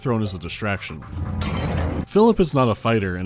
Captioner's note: glass shattering